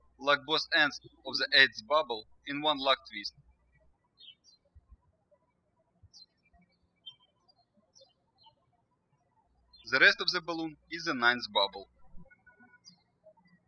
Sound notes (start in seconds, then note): 0.0 birds chirping; 5.1 birds chirping